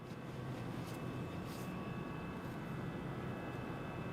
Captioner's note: humming of machinery